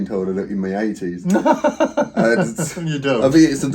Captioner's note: laughing